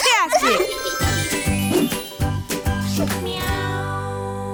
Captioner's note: transition tones